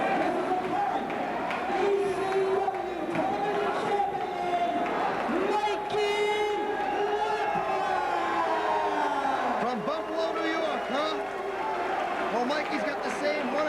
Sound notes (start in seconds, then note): 2.3 crowd cheering